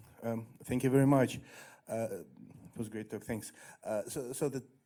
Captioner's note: voiceover